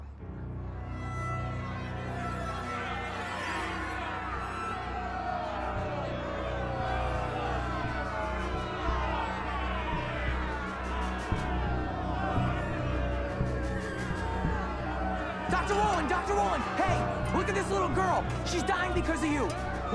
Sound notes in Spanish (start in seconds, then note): 9.9 Manifestantes abucheando